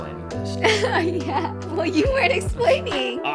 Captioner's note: laughs